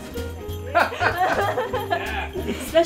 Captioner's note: men laughing